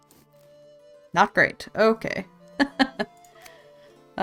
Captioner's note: laughs